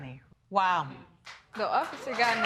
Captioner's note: applause